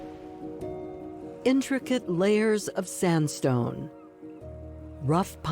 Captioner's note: bird calling